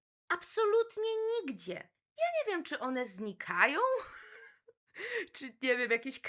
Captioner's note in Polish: śmiech